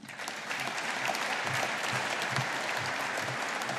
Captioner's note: audience applauding